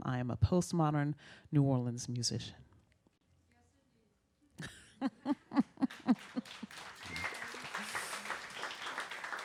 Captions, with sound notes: I am a postmodern New Orleans musician." (laughs) (audience clapping)